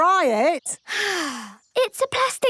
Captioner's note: sighs